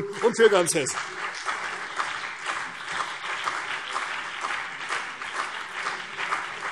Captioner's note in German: Beifall CDU und BÜNDNIS 90/DIE GRÜNEN